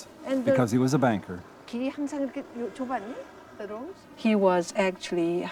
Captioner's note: speaking in foreign language